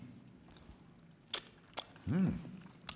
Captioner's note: makes tasting sounds